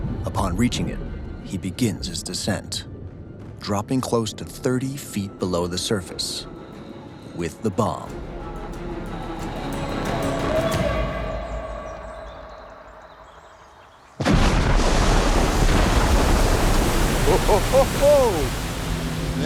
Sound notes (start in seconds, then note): 8.3 suspenseful music; 14.2 bomb booms; 14.3 water splashing